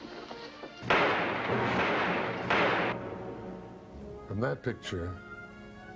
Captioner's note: gunshots firing